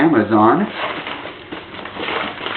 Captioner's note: paper crinkles